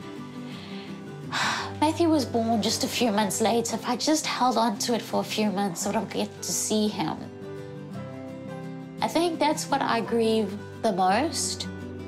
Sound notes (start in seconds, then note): 0.2 exhales